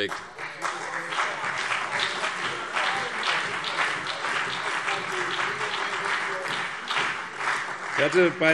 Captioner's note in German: Beifall CDU und BÜNDNIS 90/DIE GRÜNEN